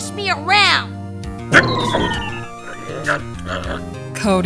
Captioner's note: frustrated grunt!